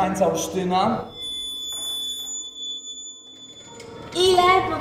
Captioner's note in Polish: wysoki dźwięk